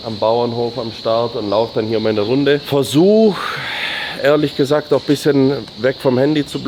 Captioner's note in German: seufzt